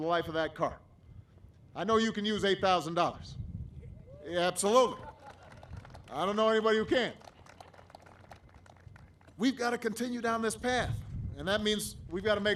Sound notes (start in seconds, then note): 5.0 applause; 8.0 laughter; 10.1 applause